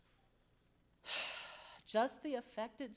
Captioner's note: sighs